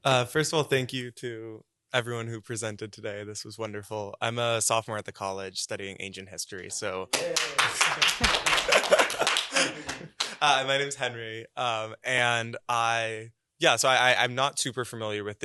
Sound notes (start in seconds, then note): 7.1 applause; 7.5 chuckling